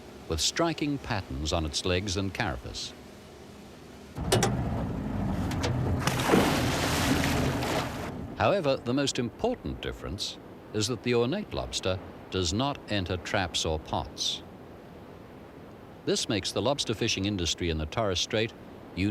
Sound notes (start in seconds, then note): 4.1 splash